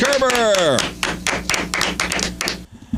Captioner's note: applause